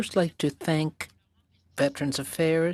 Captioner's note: speaking French